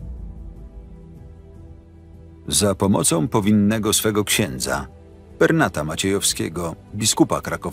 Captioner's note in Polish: Lektor